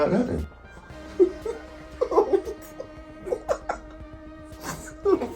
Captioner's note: both laughing